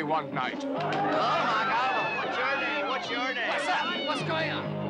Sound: people chattering

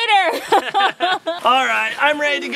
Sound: laughing

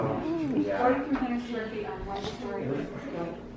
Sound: voiceover

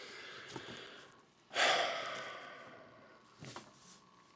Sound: sighing

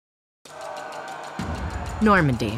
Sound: army shouting

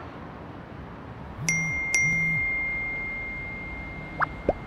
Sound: cell-phone tinkling

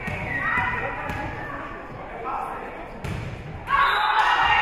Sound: whistle being blown; spectators shouting encouragements; whistle being blown

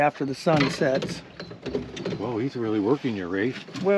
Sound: clattering

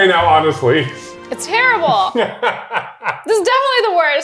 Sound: laughs

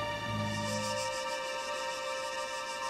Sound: insects chirp

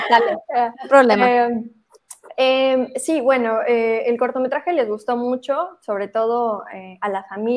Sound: speaks spanish

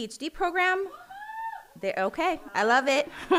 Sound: person cheering

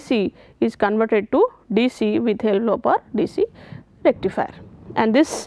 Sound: wind Turbine

